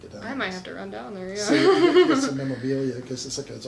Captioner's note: laughs